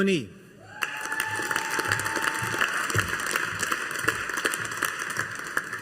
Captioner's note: audience applauding